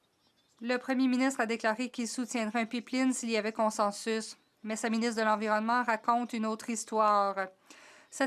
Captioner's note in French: voix de l'interprète